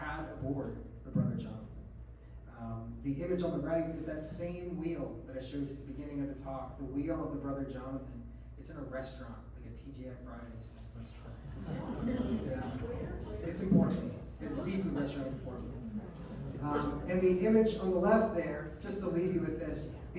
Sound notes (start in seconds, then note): 11.4 laughs